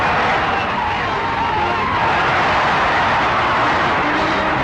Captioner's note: crowds cheering